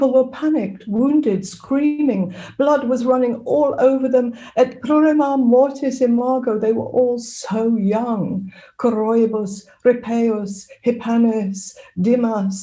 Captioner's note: reads Latin